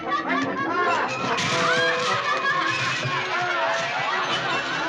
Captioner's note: laughter